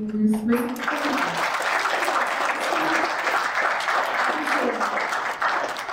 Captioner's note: audience applauding